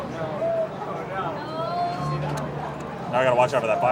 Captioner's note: customers chatting indistinctly